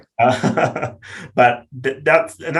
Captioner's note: laughs